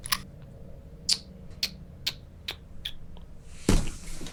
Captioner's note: clicks tongue repeatedly